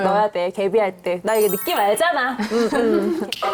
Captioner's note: confident sound effect